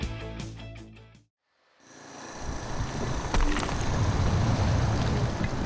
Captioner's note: concrete scraping